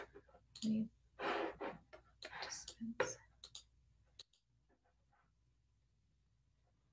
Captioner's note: computer keyboard clicking